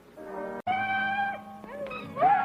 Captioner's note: odd screaming